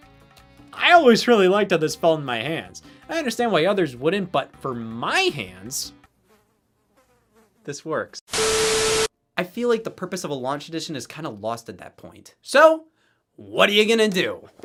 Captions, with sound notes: I always liked how this felt in my hands I understand why others wouldn't, but for my hands... *buzzing sounds* This works. I feel like the purpose of a "Launch Edition" is kinda lost at that point. So What are ya gonna do?